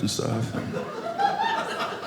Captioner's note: audience laughing